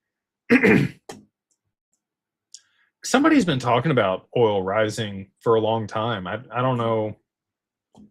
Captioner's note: clears throat